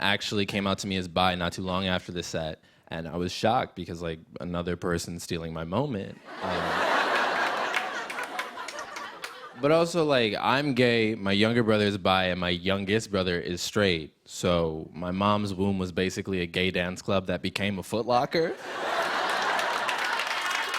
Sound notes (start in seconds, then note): 6.2 laughter; 18.5 laughter and applause